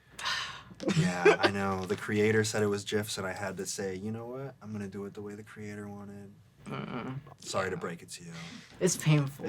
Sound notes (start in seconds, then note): 0.2 sigh; 6.6 groans